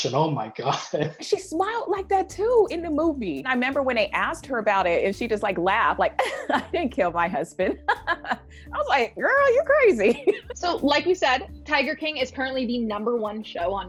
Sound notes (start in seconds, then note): 0.5 chuckles; 6.2 chuckles; 7.6 laughs